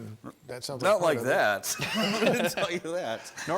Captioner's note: laughs